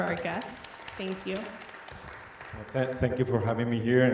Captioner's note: audience applauding